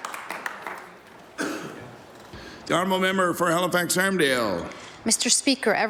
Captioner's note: applause